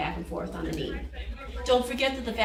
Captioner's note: people chattering